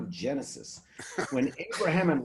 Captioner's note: laughing